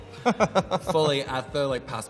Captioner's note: laughs